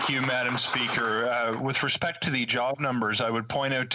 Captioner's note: applause